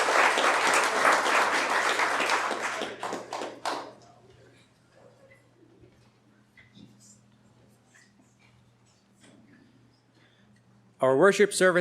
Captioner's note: applause